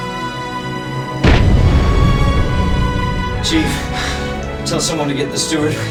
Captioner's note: explosion